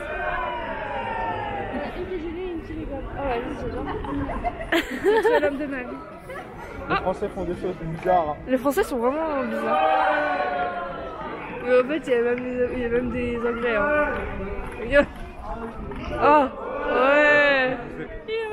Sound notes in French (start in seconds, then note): 3.8 rire